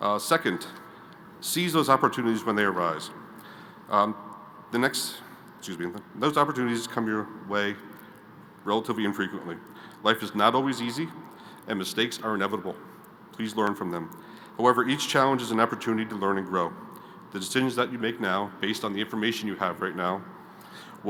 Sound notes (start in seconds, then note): none